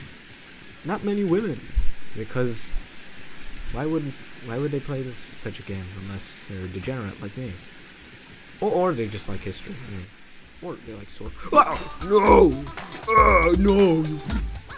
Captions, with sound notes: Not many women Because... Why would- why would they play- such a game unless their a degenerate like me Or they like history, or you know swords- Wowawh! Noooo! *Orc noise* Nooooss